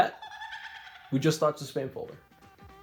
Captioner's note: spam cackles